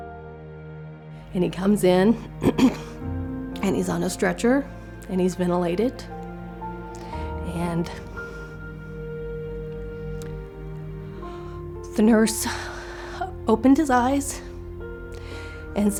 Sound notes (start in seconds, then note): 2.4 clearing throat